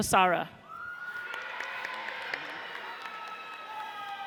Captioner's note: audience cheers